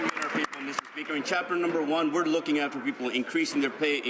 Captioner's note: some Applause